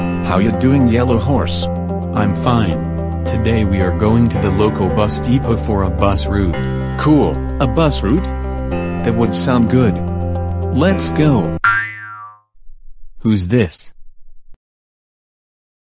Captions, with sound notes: How ya doin' Yellow Horse? I'm fine. Today we are going to the local bus depot for a bus route. Cool, a bus route!?!? That would sound good. Let's go! *Boing* Who is this?